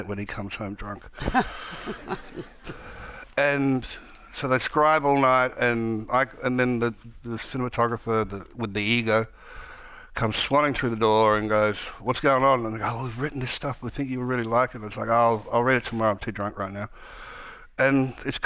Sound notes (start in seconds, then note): 1.2 Margaret laughing; 1.2 audience laughing